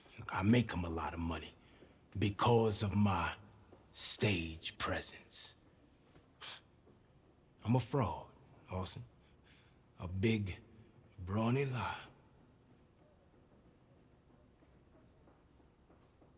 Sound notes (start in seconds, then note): 6.4 scoffs